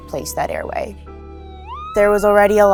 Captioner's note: siren